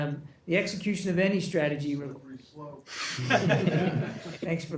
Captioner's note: laughter